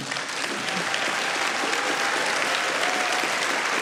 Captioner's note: audience clapping